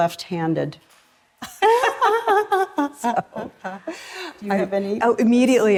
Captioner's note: laughter